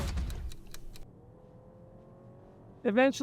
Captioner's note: clock ticking; vehicle engine revving